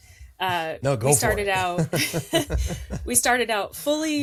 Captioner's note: laughs; chuckles